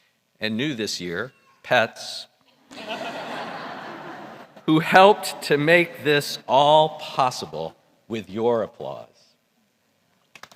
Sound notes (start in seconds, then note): 2.6 laughter; 10.4 applause